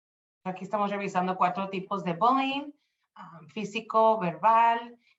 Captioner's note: speaking Spanish